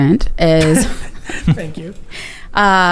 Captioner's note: laughs